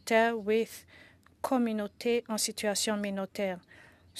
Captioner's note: speaking French